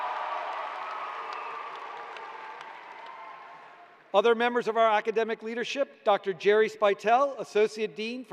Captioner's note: cheers and applause